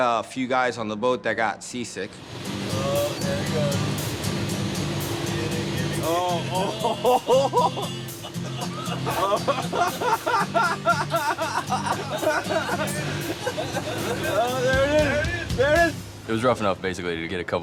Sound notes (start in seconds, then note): 6.4 laughing